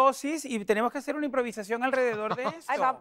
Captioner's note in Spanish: Ríe